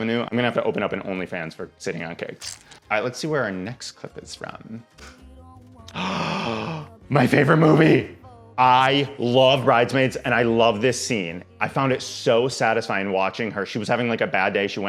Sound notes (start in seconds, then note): 5.9 gasps